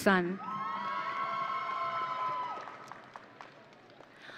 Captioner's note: audience cheering